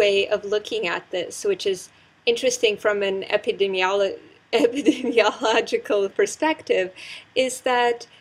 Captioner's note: laugh